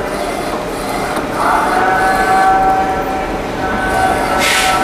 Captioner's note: printer machine sound; distant chattering; printer machine sound